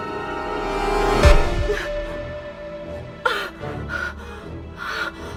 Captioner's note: Sarra moaning; suspenseful music